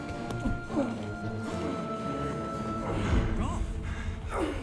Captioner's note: dramatic music; grunting